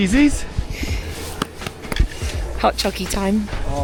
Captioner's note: claps